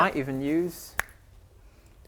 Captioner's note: snap